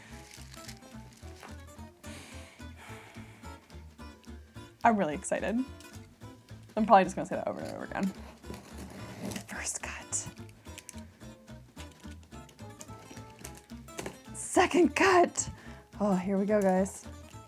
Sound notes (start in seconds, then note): 0.3 upbeat music; 2.0 deeply breathing; 10.6 upbeat music